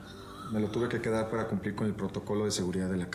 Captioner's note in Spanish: exclamaciones